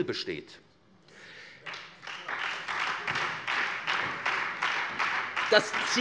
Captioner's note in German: Beifall SPD und Freie Demokraten